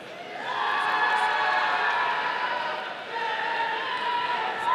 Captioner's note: audience cheering